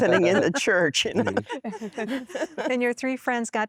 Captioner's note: laughter